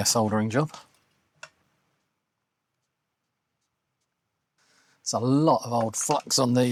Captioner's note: silence